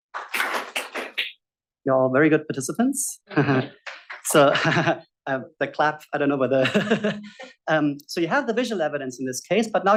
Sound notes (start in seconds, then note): 0.1 audience claps; 3.3 chuckles; 6.6 chuckles